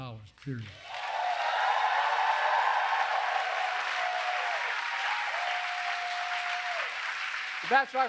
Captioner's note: applause